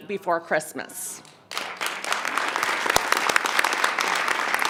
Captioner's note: clapping